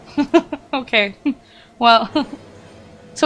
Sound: laughs

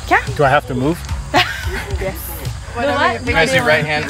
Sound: laughs

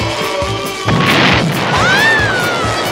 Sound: exploding; screaming

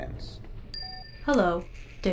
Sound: phone chimes

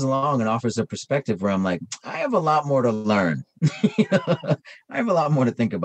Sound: laughs

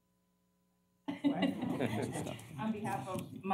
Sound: laughter

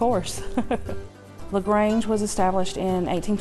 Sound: laughing

